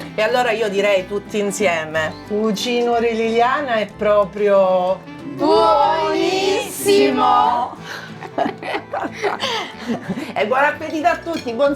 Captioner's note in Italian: Risate